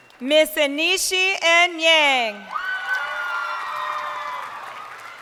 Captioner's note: crowd cheering